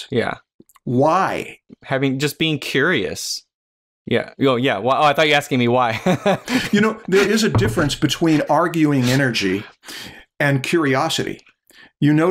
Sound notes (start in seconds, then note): 6.0 chuckles